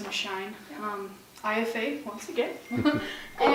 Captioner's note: laugh